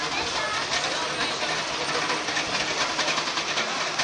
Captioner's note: knock knock knock